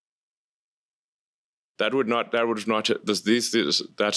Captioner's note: stammering